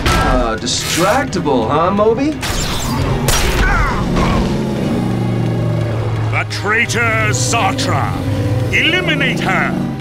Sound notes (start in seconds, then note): 3.6 groans